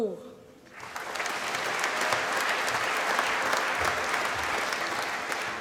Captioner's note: applause